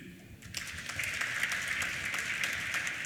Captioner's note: applause